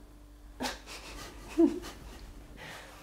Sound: giggle

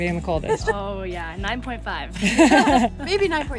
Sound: laughs

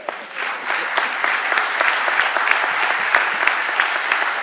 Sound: audience applauding

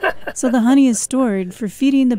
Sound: laughter

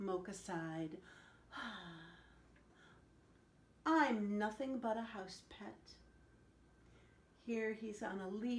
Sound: sighing

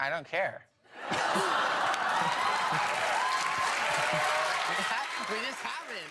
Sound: everyone laughs

